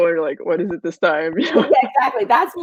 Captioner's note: laughs